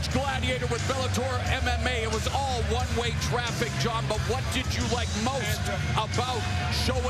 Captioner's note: cheers and applause